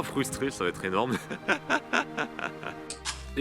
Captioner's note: laughs